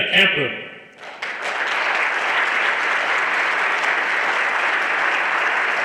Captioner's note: everyone applauding